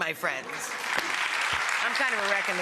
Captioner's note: audience applauding